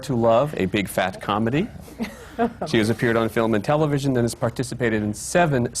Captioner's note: laughs